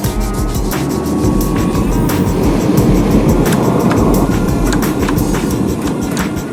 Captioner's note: grinding and dipping sounds